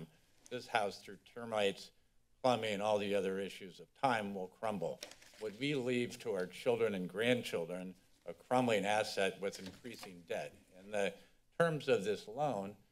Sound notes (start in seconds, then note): none